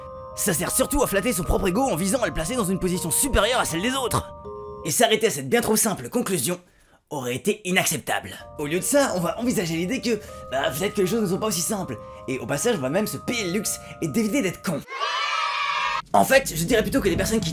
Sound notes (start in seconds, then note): 14.8 yaaaay